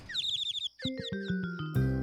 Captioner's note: birds chirping